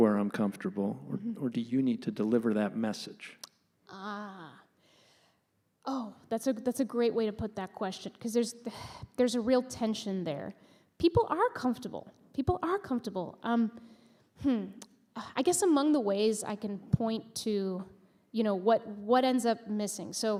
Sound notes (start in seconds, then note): none